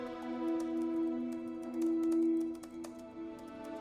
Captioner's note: soft piano music; keyboard clacking